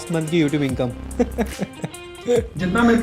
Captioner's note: laugh